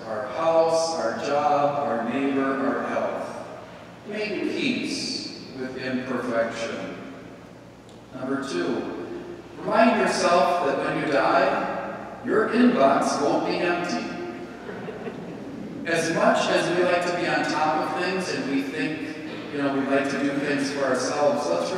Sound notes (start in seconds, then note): 14.3 congregation laughing